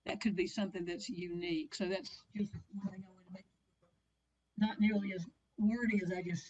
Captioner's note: audio interference